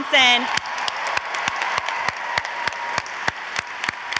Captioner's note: audience applauds